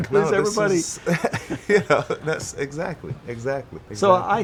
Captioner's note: laughing